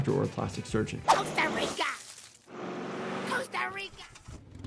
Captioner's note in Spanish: zoom del coche